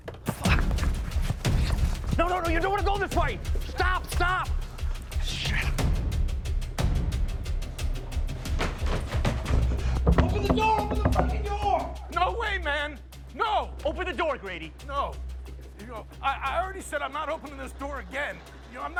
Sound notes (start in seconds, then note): 5.7 dramatic music; 10.1 knocking